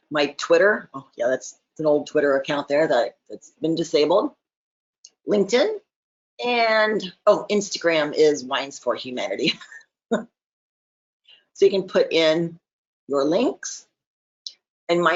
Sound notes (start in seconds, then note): 9.5 chuckles